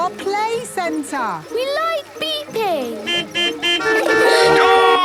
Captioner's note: horns beeping